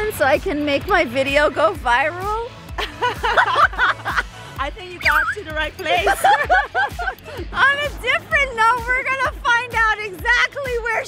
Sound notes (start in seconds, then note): 2.9 laughs; 5.9 both laughing